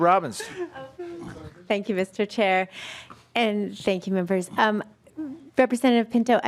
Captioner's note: laughing